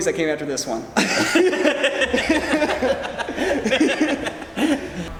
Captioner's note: laughing